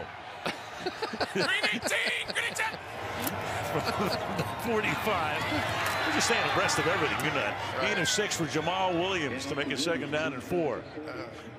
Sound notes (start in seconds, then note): 0.4 laughs